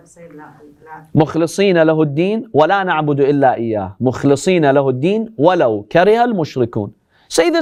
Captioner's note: Arabic